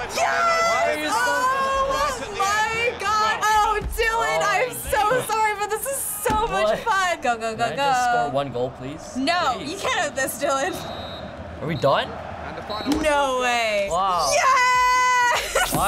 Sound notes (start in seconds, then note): 10.7 ref blowing whistle